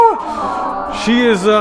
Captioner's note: crowd awes